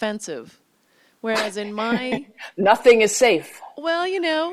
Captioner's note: chuckles